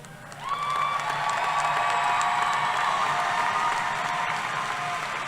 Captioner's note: applause